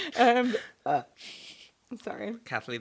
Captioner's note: burping